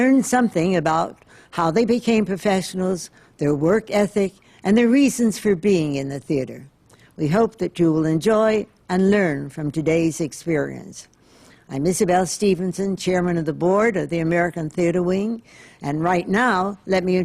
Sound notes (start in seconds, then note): none